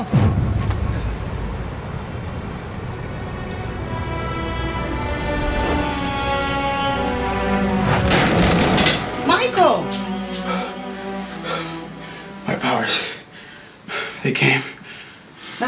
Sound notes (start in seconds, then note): 0.1 light dramatic music; 4.0 light dramatic music continues; 7.8 whooshing; 7.9 door clattering; 10.5 Michael panting